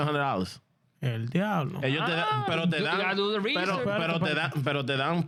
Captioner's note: speaking In Foreign Language